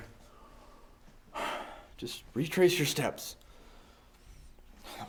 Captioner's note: sighs